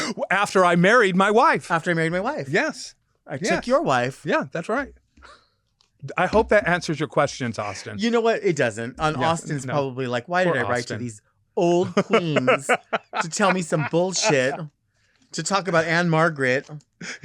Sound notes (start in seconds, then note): 11.7 laughing